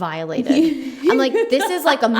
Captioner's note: laughs